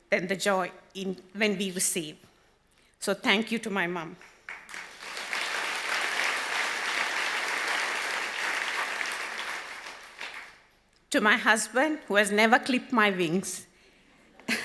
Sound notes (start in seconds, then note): 4.4 audience applause